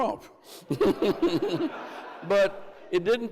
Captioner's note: Andrew and crowd laughs